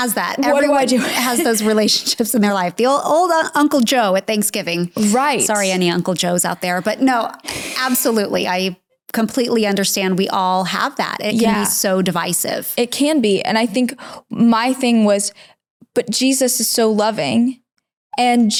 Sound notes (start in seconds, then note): 0.0 laughs; 8.4 snickering